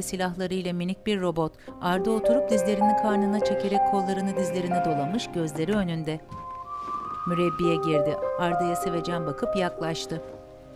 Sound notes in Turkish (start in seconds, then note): 0.0 Müzik - Duygusal; 5.0 Kapı açılma sesi